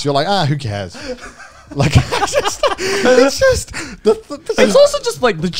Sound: everyone laughs

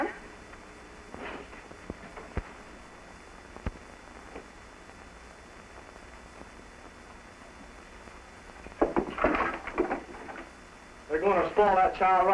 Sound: silence

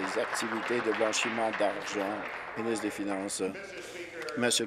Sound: applause

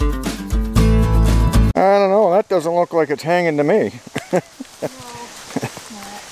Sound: chuckles

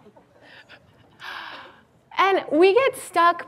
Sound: laughs

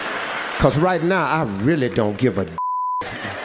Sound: beeps

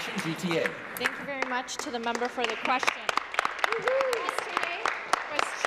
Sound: applause

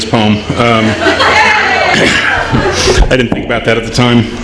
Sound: laughter

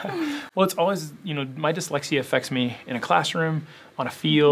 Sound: laugh

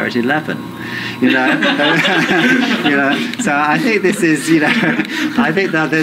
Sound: laughter

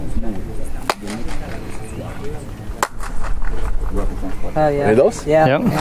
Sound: claps, followed by seven echoes

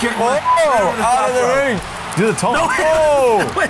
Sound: yells

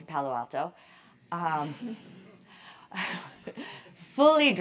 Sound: laugh

